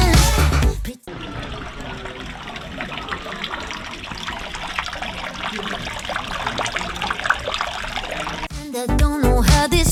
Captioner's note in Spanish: ruido de agua